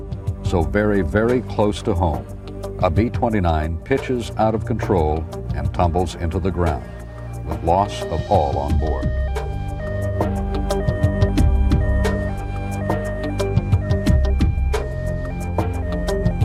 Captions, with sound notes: So very, very close to home, a B-29 pitches out of control and tumbles into the ground with loss of all on board. (siren wailing) (intense electronic music)